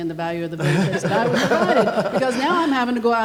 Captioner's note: everyone laughing